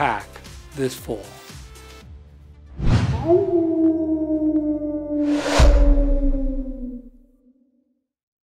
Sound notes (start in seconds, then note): 3.1 howling